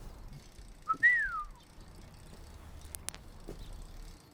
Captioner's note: neighbor whistles